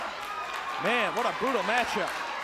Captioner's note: audience applauds and cheers